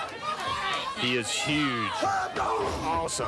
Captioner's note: crowd cheering